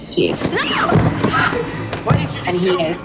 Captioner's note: screaming